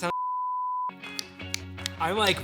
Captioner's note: fingers snapping